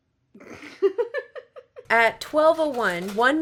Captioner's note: laughs